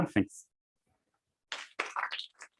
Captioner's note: applause